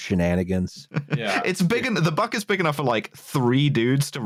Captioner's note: chuckles